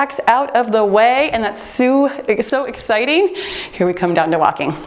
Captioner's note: timer beeps